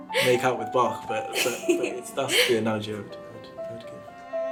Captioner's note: laughs